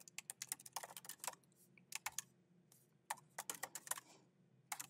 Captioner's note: keyboard clacking